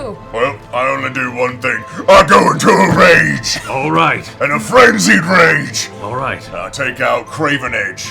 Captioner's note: yelling